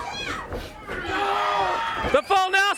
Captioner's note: crowd cheering